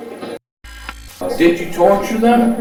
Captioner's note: static fizzing